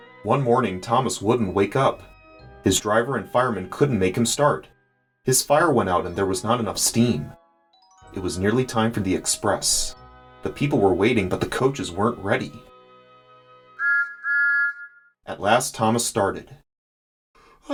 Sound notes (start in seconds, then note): 13.8 Thomas Whistles